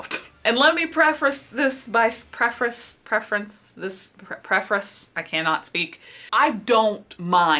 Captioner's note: struggles to pronounce the word "prefrace"